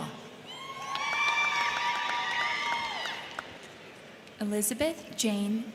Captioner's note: crowd cheering; crowd clapping